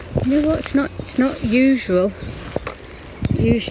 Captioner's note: leaves rustling; birds chirping